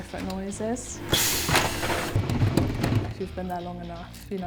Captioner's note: machinery whirring